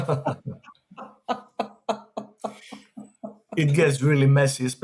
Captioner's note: chuckles; laughs